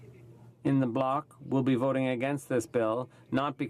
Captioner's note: speaking in French